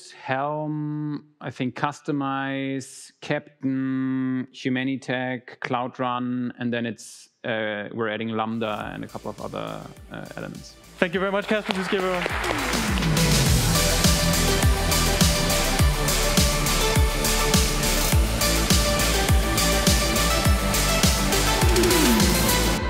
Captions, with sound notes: Helm, Humanitec, Cloud Run. And then we're adding Lambda and a couple of other elements. Thank you very much, Kaspar. [audience applause] [outro music]